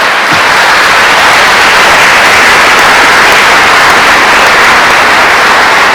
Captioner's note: applause